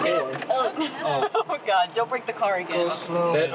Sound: laughing

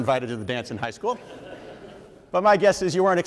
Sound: audience members laugh

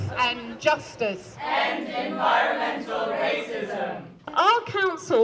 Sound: chant

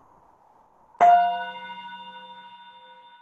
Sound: chime

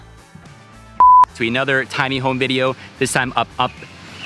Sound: beep

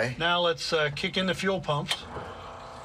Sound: click

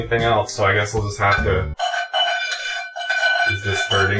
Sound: scraping non-stick pan

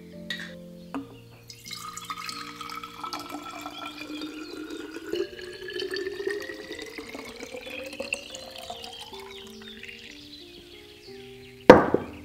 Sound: vinegar pours into bottle

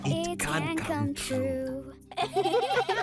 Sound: laughing

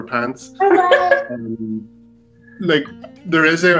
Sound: laughs

